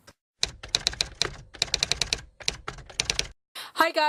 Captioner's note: typewriter typing